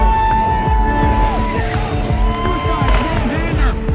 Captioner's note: crowd cheering